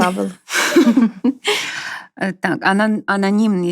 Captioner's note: laughter